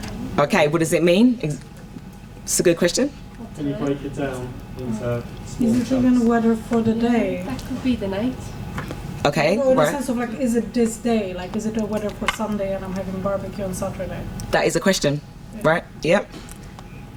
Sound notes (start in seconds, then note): 3.4 audience talking